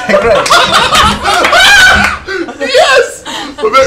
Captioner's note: laughter